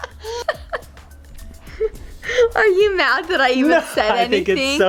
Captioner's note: laughing